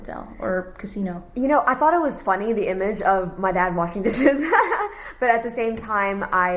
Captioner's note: laughs